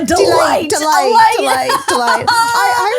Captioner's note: laughs